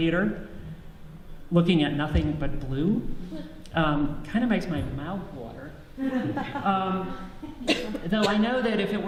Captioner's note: audience laughs